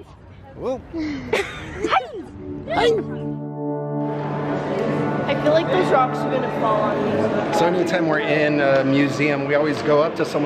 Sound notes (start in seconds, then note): 0.2 sneezes; 1.1 laughs